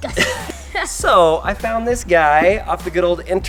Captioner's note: laughter